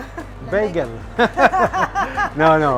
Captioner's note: laughs